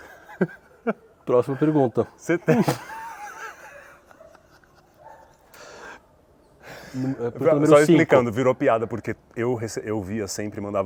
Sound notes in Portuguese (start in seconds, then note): 2.3 risos